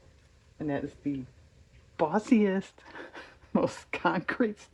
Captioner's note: laughs